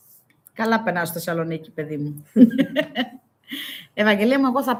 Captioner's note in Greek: γέλια